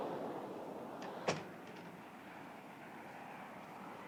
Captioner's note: door clicks shut